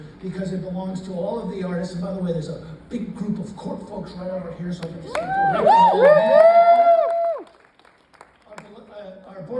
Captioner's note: cheers